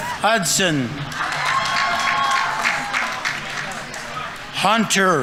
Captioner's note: audience applauding; audience members cheering